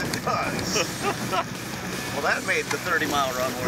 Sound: laughs

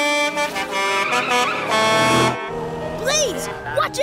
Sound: honking

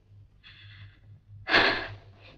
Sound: chuckles

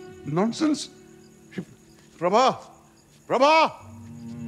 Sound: shouts

